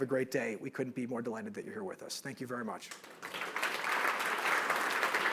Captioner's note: applause